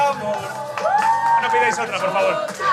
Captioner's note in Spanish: Aplausos